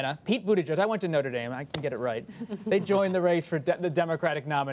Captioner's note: laughter